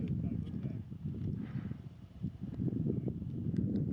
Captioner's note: wind whistles